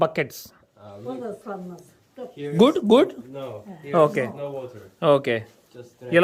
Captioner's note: speaking in foreign language